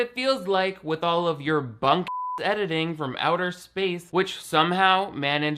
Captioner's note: beep